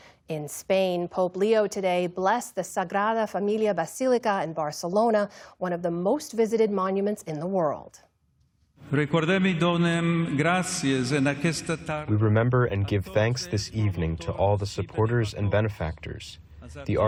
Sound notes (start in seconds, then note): 11.6 through translator